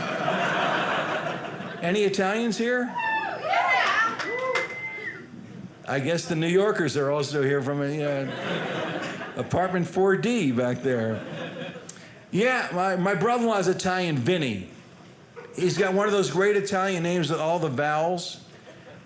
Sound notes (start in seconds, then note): 0.0 audience laughing; 2.8 audience cheering